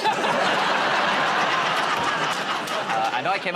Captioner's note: laughter